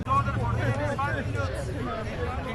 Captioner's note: people talking in the distance